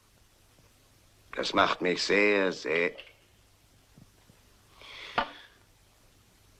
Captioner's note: clattering